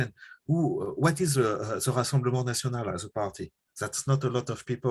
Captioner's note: french